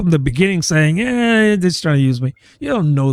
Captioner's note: uh